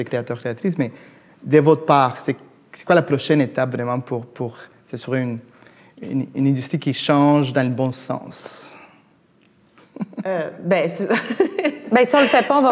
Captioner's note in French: rires